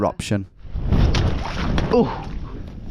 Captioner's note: water splashing